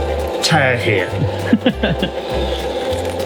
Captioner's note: chuckles